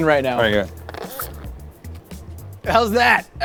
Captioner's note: squirter squeaks